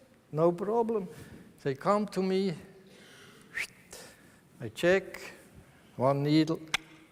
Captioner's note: whistles